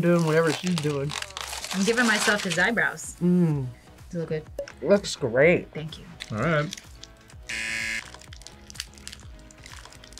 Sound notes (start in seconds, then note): 7.4 buzzer